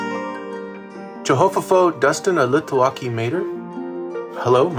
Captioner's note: thrilling music; speaks in Chickasaw